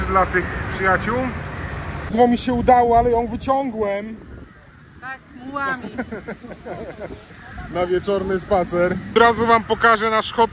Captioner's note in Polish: śmiech